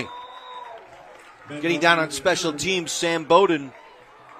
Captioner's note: applause